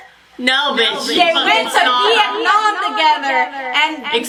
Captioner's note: echoing